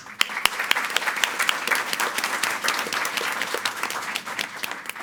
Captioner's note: audience applauding